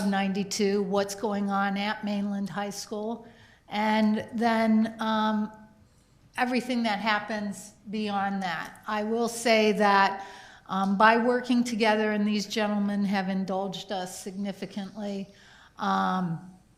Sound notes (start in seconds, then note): none